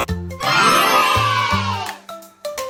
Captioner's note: applause